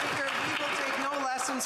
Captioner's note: applause